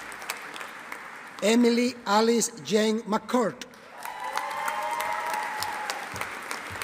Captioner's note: audience applauding